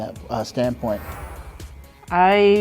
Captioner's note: air whooshes